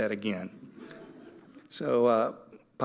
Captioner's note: audience laughing